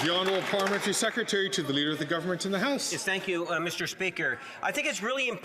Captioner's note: some Applause